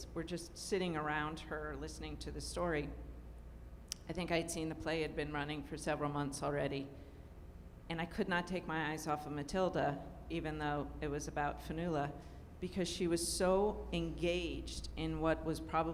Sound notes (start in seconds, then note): none